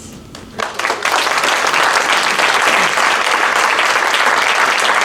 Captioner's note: applause